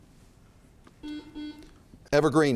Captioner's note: buzzer chimes